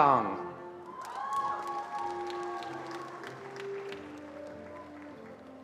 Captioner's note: attendees applauding